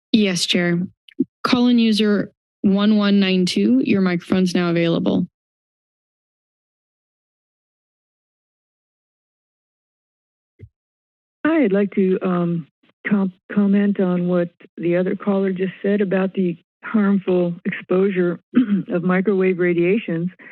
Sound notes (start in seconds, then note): 5.7 silence